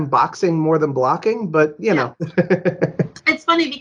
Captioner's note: laughs